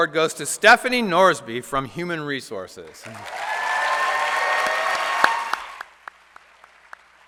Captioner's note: applause